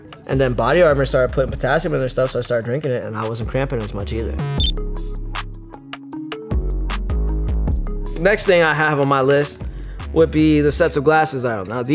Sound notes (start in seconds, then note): 3.6 hip hop music; 4.4 electronic beep